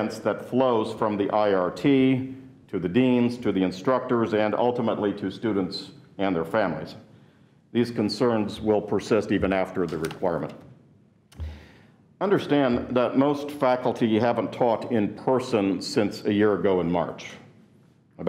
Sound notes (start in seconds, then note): none